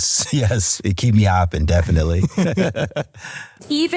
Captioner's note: laughs